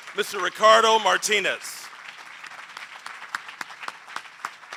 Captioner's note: applause